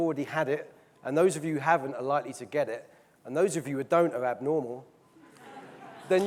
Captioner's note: audience laughing, clapping